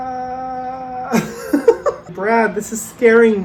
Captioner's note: laughs